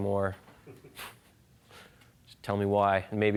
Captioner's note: laughing